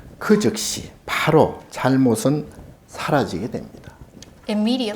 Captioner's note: speaking Korean